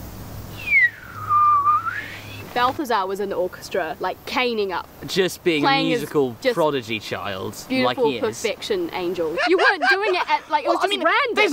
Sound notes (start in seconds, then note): 0.5 whistling; 9.3 laughing